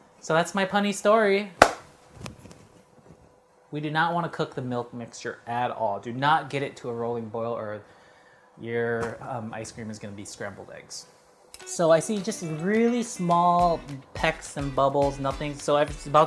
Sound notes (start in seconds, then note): 1.6 clap